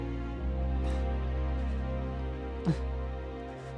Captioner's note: sobbing